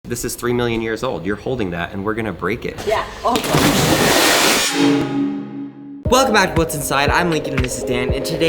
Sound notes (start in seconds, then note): 3.3 water splashing